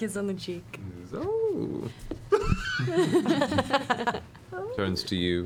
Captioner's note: laughs